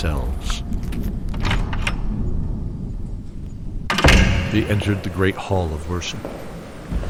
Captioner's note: door creak transition to internal echoing temple footsteps